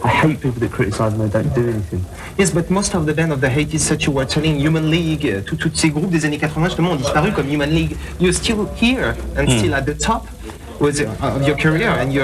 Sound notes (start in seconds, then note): 5.5 french